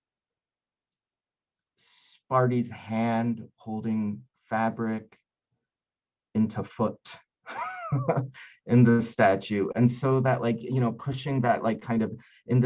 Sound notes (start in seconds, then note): 7.6 laughing